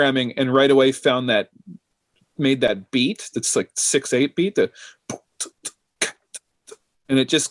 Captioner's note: beatboxes